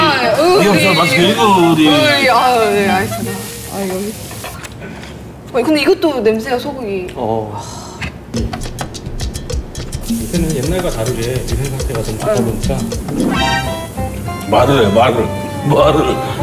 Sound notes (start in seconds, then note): 4.6 sniffing